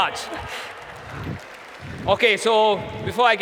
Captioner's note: applause